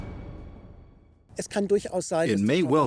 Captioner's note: speaking German